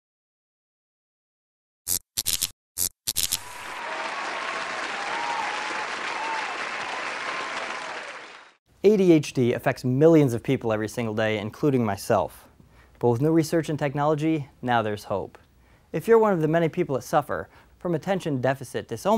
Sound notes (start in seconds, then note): 3.4 vigorous applause